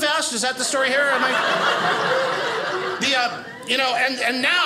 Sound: audience laughing

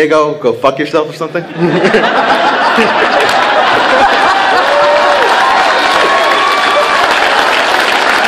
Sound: applause

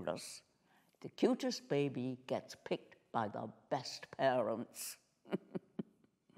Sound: chuckling

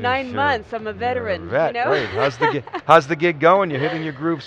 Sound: laughs

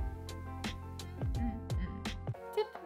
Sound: hums three times

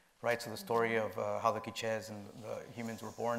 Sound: speaking foreign language

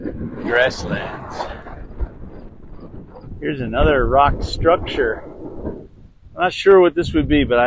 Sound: wind noise

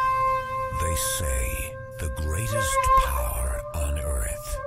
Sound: deep Male Voiceover

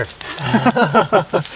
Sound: both laugh

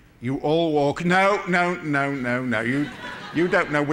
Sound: laughter

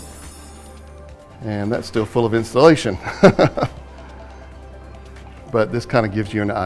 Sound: laughs

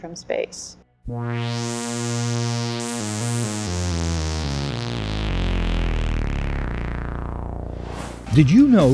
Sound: sound Effects

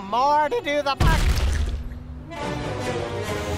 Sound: wet squishing; dramatic music

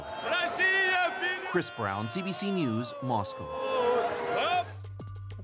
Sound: speaking russian

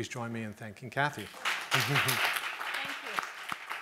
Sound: audience clapping

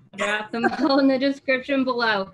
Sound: laughs

